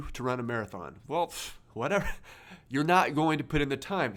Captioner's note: laughs